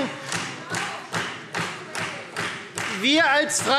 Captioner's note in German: Beifall Freie Demokraten